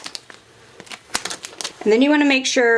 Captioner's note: packaging rasping